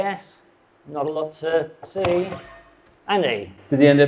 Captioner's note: buzzer blares